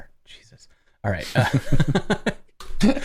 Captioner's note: laughter